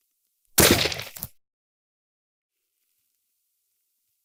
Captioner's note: gunshot